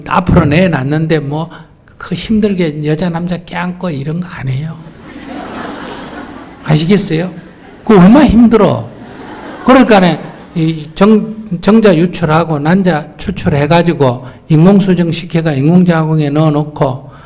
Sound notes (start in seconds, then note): 4.8 audience Laughter